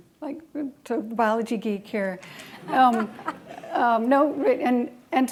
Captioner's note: laughing